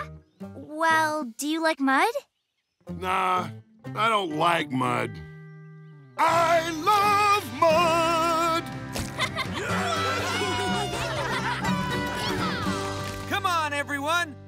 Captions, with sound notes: Well, do you like mud? Nah, I don't like mud. I love mud! [laughing] [cheering] Come on, everyone!